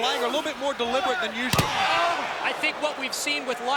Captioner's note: mat thumping